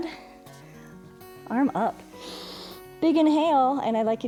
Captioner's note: inhales